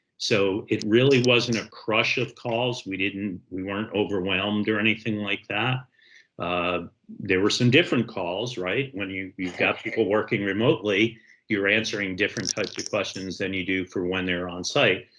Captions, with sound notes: So, it really wasn't a crush of calls. We weren't overwhelmed or anything like that. There were some different calls, right? When you, (coughing in background) you've got people working remotely, you're answering different (crackling) types of questions than you do for when they're on-site.